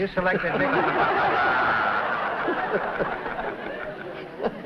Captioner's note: laughter